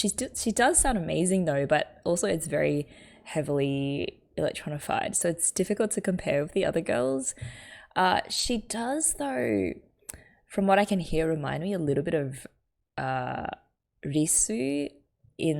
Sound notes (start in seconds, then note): none